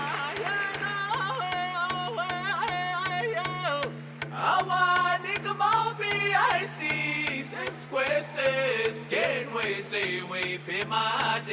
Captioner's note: cheering and Applause